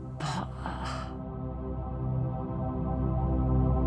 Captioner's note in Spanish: Sarah exhala por última vez